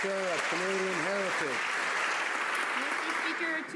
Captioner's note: some Applause